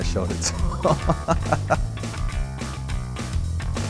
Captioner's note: laughs